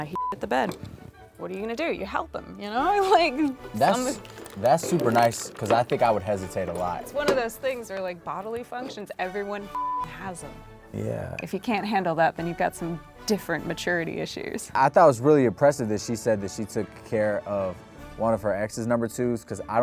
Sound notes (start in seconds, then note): 0.0 beep; 9.7 beep